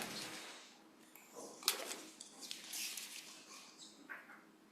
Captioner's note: papers shuffling